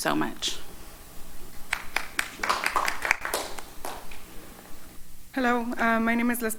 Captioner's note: applause